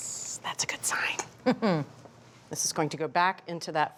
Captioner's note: chuckles